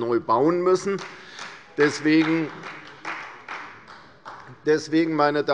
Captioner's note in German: Beifall bei Abgeordneten der CDU